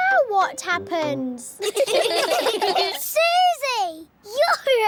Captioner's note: all giggling